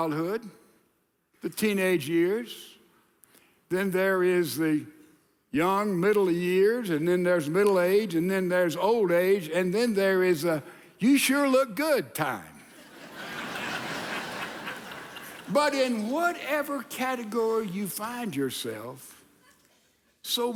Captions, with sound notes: There's childhood, the teenage years. Then there is the young, middle years, and then there's middle age, and then there's old age, and then there is a you sure look good time. (audience laughing) But in whatever category you find yourself,